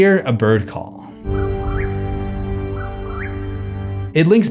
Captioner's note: whip-poor-will call